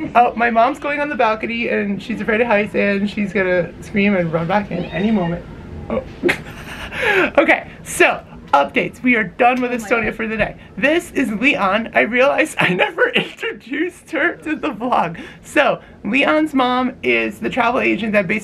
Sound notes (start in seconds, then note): 4.7 mom squeals; 5.9 lols